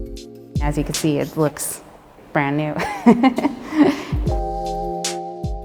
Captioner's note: laughs